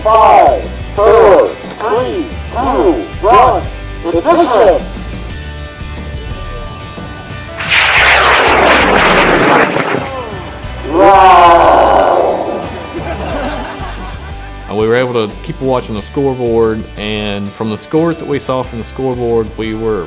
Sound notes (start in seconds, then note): 7.5 rocket launching; 12.3 laughing